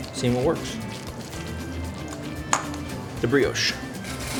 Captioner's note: mixture squelches